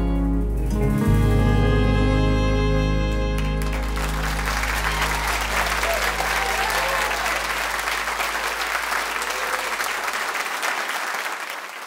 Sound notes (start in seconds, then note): 3.3 cheers and applause